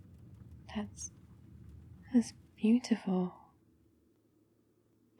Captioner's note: car stops